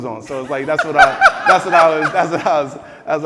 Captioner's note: laughing